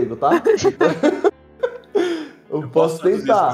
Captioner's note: laughs